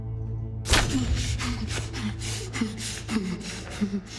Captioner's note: Alex panting